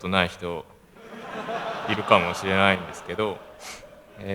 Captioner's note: laugh